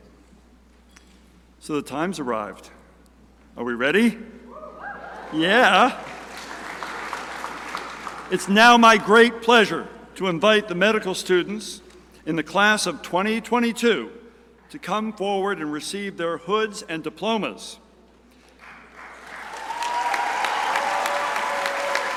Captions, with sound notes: So the time has arrived. Are we ready? Yeah! (crowd cheering) It is now my great pleasure to invite the medical students in the Class of 2022 to come forward and receive their hoods and diplomas. (crowd applauding)